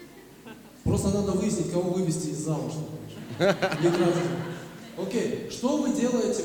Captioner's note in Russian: смех